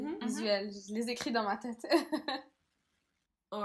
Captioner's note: laugh